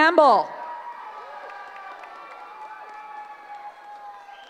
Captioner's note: cheering